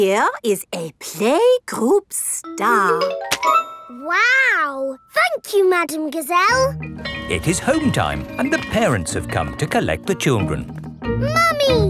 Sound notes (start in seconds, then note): 7.0 bell tolling